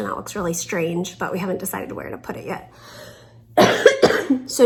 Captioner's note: coughs